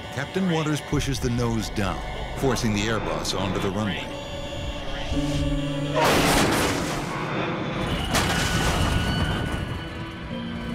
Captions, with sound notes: Captain Waters pushes the nose down, forcing the airbus onto the runway. (metal screeches and crushes)